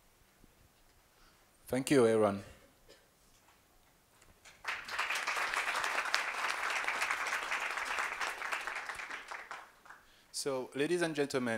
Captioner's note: applause